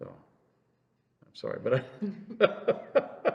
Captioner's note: laughs